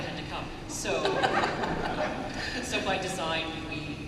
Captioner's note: laughter